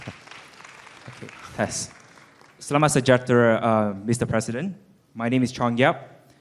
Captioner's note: applause